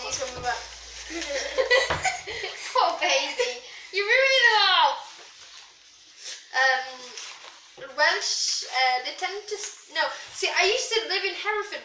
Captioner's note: bad welsh accent